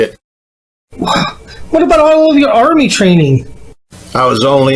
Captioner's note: sighs